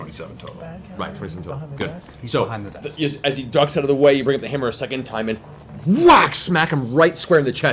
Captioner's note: whack; grunts